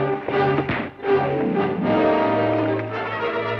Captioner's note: thud; dramatic orchestral music